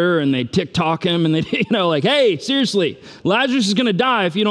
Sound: chuckles

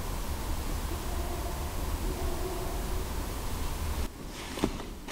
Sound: faint distant barking

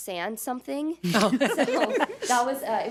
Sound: audience laughs

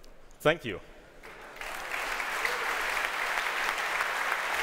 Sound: applause

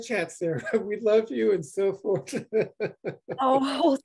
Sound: giggles

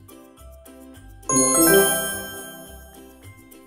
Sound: jingle noise

